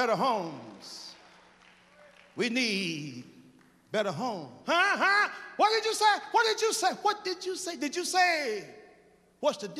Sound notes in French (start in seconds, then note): 3.3 applause